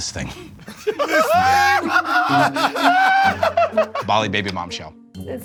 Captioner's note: laughs